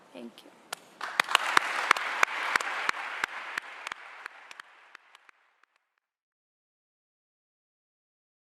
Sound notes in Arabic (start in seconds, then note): 1.0 الجمهور واللجنة يصفقون